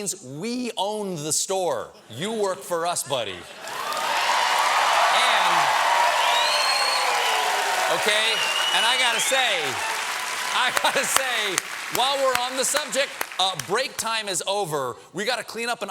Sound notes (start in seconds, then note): 5.9 cheers and applause